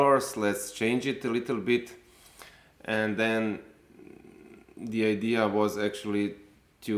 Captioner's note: none